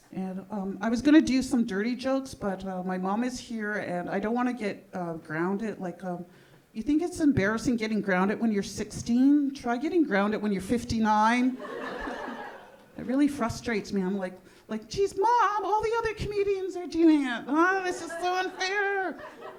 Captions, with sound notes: And I was gonna do some dirty jokes, but my mom is here and I don't want to get grounded. Like you think it's embarrassing getting grounded when you're 16. Try getting grounded when you're 59. (audience laughing) That really frustrates me. I'm like, like, "Geez, mom. All the other comedians are doing it. Oh, this is so unfair."